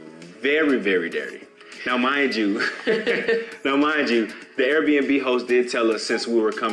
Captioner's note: laughing